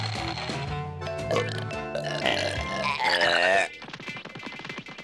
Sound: burping

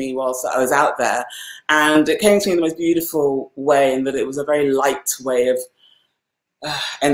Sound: sighs

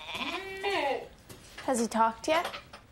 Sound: goat bleating

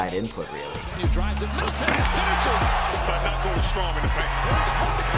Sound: crowd cheering

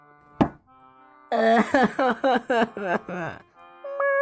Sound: shuts door; resumes crying

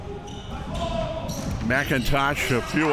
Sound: crowd cheering

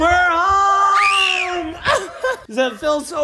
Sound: screaming

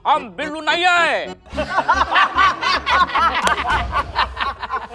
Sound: laughs

